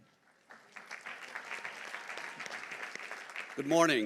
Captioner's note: audience applauding